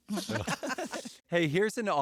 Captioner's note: laughter